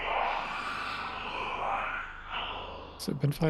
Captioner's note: shrieker noise